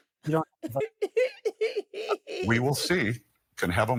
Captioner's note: laughing